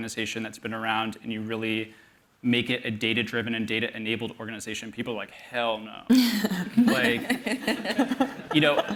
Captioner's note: laughter